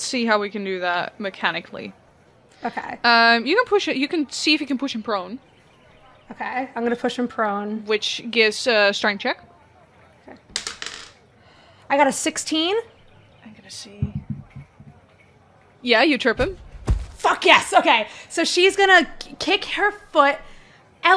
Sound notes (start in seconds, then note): 10.5 dice clacks; 16.4 thud